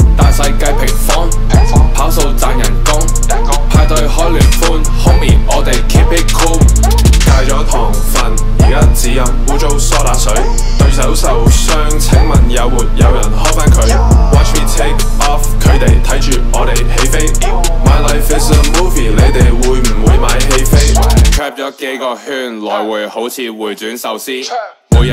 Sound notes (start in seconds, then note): 13.8 yeaahhh